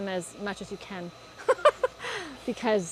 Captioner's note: laughs